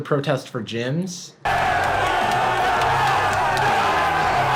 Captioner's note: crowd roaring